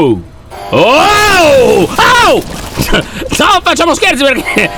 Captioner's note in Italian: urla spaventato; detriti che cadono; suono di allarme